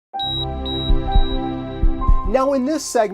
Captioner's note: piano music; heartbeats